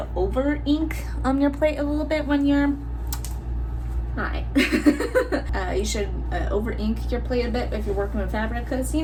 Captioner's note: laugh